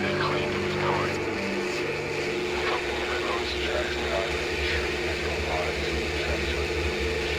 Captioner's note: Static